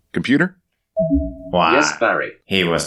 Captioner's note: computers Overlapping